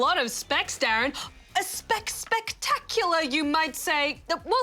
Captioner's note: gasps